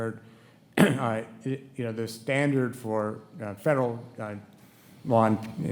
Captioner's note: clears throat